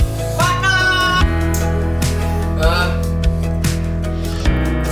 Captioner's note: puff puff